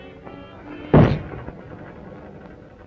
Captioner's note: thuds